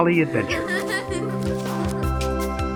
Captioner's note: ילדים צוחקים